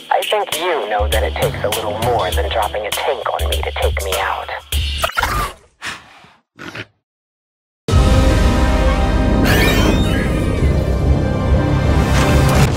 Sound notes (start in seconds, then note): 5.0 prehistoric nugget noises